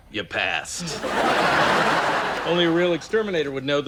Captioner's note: laughs